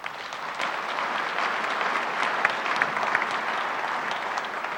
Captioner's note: audience applauds